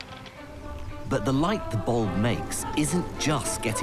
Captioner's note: voiceover